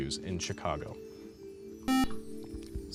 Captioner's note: buzzer